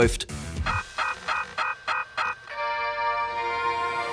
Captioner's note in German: Elektronische Geräusche, sanfte Töne